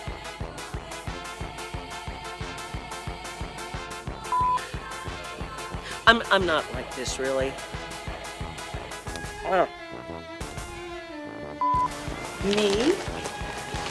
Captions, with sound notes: (beep) - I'm not like this really. (beep) - Me,